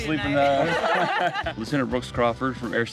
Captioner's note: laughing